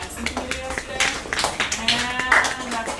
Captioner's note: applause